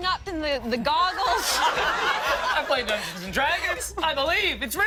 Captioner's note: laughter